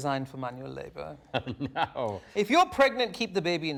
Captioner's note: laughs